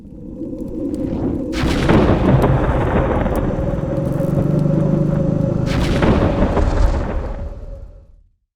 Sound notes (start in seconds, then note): 0.7 thunder, growling noises